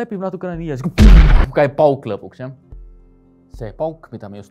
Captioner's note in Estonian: plahvatus